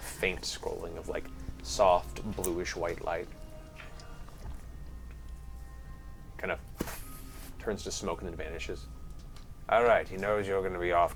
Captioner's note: poof